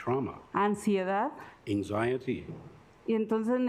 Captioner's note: speaking Spanish